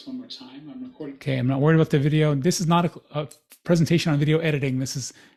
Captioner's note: recording playing